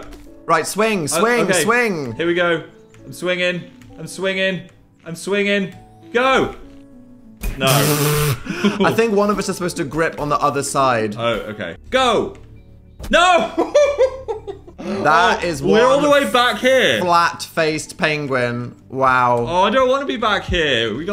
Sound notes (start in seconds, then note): 7.8 splutters; 12.1 laughs